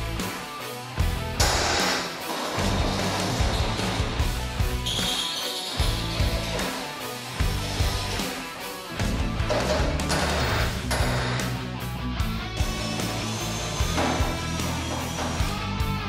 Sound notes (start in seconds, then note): 0.8 hammer thumping; 3.1 drill whirring; 10.1 hammer thumping; 12.8 drill whirring